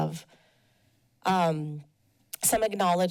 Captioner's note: pause